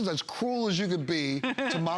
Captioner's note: laughter